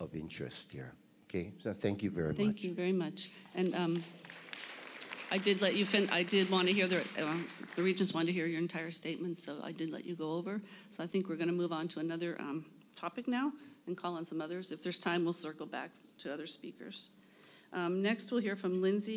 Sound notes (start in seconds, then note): 8.7 applause